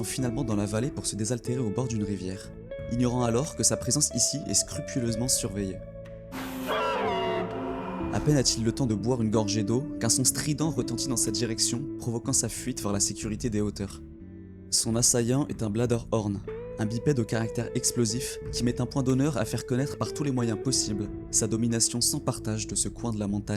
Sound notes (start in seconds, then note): 6.4 scream